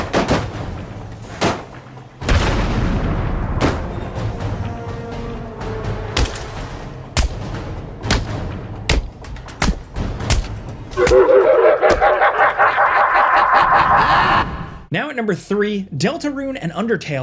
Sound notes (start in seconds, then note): 2.2 explosion echoing; 7.7 shots echoing; 11.0 character laughing robotically